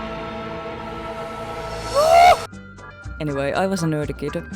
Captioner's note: scream